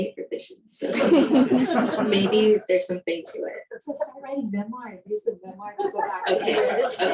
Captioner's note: laughing